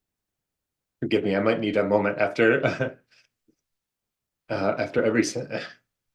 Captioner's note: chuckles